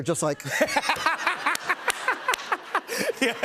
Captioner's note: laughter